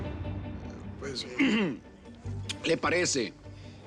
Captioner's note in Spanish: carraspea